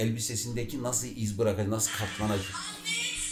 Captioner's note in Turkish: kamera arkasında birinin telefonundan ses gelir